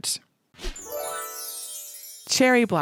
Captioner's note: bells dinging